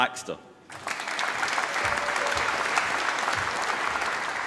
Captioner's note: applause